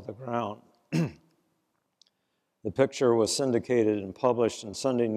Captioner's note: cough